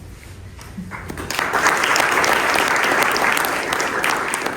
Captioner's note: applause